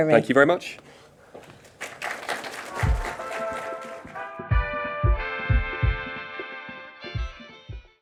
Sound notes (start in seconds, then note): 1.4 audience applauding; 2.7 upbeat music